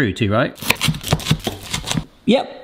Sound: knife chopping

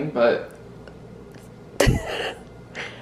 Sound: laughs

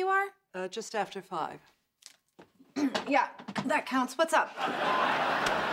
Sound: clears throat

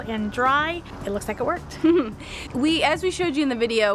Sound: chuckles

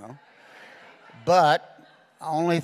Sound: congregation laughing

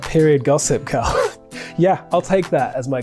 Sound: Rege-Jean chuckles

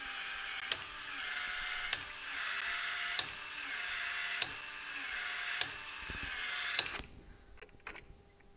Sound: tool whirring

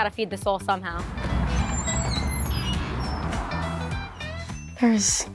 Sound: door squeaking

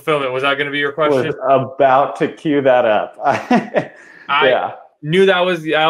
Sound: laughs

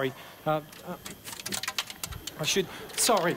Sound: plectrum rattles

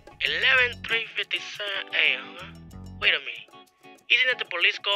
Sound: voiceover

